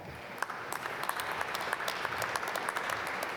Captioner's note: applause